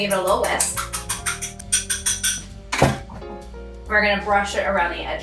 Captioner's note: whisk clanking